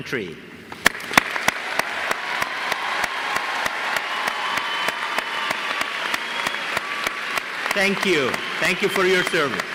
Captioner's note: applause